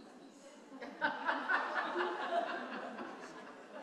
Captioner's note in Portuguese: risos da plateia